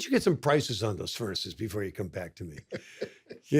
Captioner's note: laughs